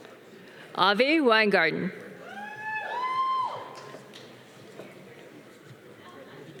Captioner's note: audience cheering